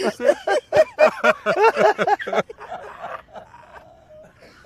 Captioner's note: all three laugh hysterically